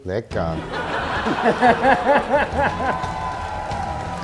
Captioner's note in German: Lachen, spannungsvolle Musik